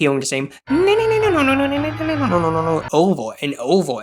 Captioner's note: immidates the boss theme